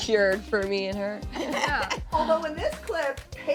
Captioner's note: laughing